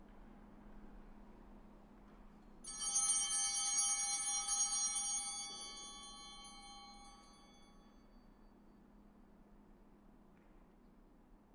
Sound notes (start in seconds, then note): 2.7 chimes ringing